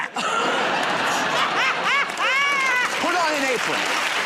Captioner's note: laughter and applause